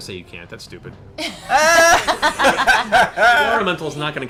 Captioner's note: cast laughs